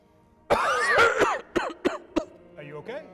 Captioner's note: Ernesto coughing